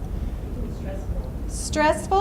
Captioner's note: voiceover